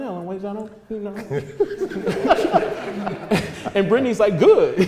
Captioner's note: laughter